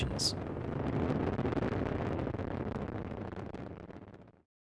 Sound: roar of rocket engines

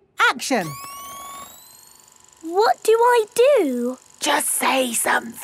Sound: camera whirring; whispering

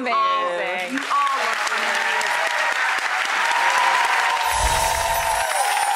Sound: audience cheering and applauding

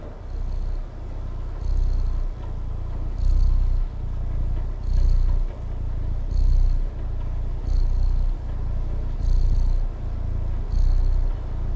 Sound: sound of kitten purring

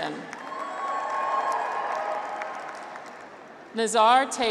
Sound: graduates cheer

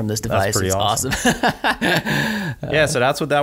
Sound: laughs

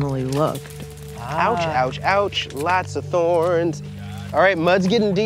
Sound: sing-song-y

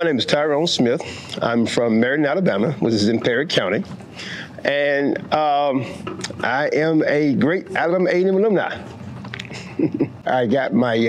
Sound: laughs

